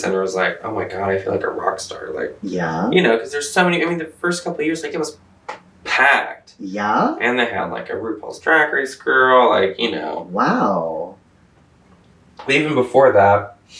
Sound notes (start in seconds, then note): none